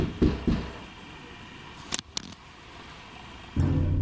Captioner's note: knocking sound